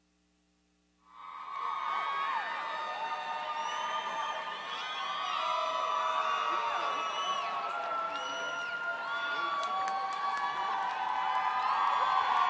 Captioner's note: cheering, whistling